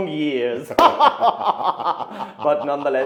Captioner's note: men laughing